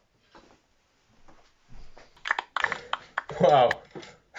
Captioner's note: gentle applause